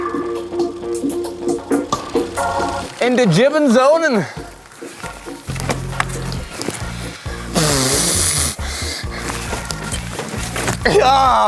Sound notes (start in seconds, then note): 3.5 speaks foreign language; 7.6 exhales loudly